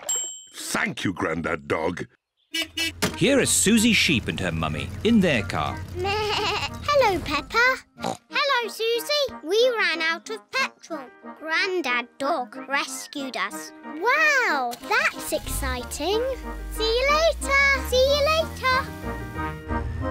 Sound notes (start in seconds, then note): 0.0 bell dings; 2.5 horn beeps; 6.5 bleats; 8.0 snorts